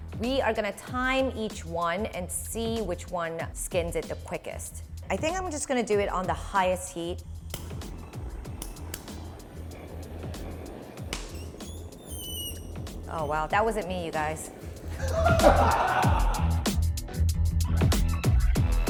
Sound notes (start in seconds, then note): 14.7 laughing; 16.1 upbeat music